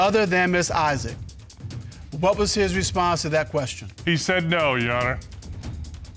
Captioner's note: none